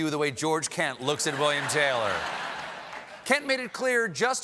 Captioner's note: laughter